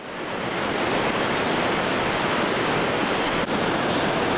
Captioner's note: cicada alarm